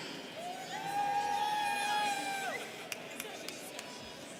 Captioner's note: students cheering